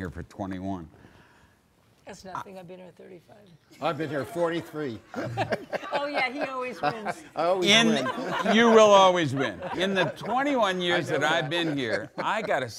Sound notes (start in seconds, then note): 3.7 audience laughing; 5.2 laughs